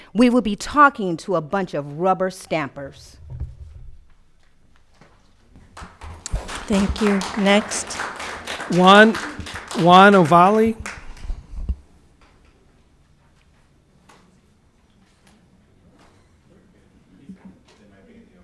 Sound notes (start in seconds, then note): 3.6 audience clapping